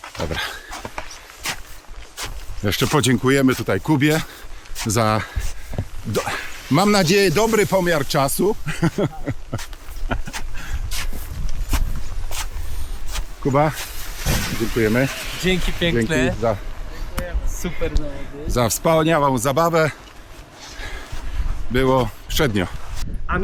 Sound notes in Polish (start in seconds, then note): 8.6 śmiech